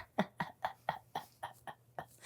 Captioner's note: giggles